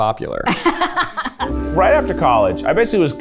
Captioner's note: laughs